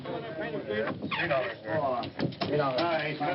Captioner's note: men chattering